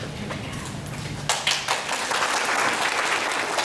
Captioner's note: applause